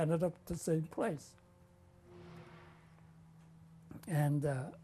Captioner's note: pauses for 3 seconds